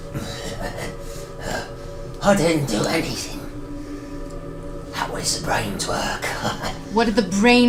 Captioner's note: chuckles